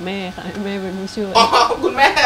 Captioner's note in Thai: เสียงหัวเราะ